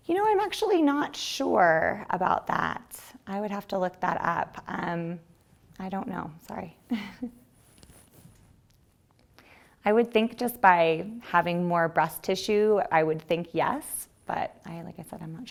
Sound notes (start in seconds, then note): 7.8 chuckles